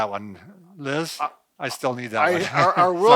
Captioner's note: laughs